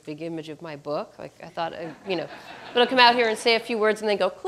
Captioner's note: crowd laughing